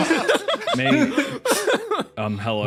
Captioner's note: laughs